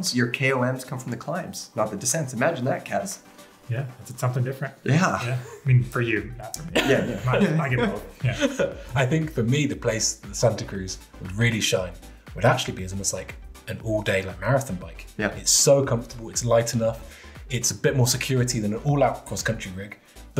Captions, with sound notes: your KLMs come from the climbs, not the descents, imagine that Kaz. - Yeah, is it something different? - Yeah. - Yeah, I mean for you. (all laughing) - I think for me, the place Santa Cruz really shine. Would actually be almost like, an all day long marathon bike. It's so comfortable, it's light enough, it's a bit more security than an all out cross country reek,